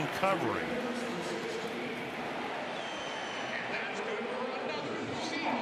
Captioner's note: pa announcement